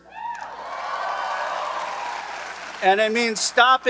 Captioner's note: audience cheering and applauding